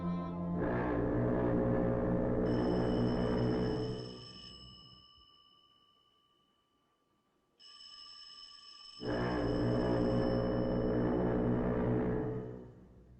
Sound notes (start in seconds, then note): 0.0 foghorn Blows; 2.5 phone Ringing; 9.0 foghorn Blows; 9.2 ringing Continues